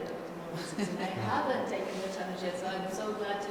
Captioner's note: laughter